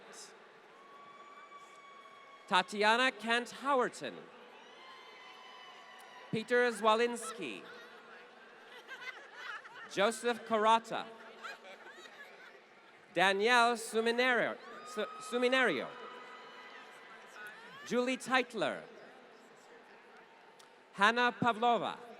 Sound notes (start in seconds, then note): 0.1 applause; 7.8 laughter